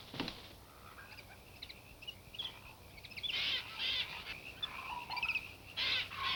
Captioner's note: frogs and insects chirping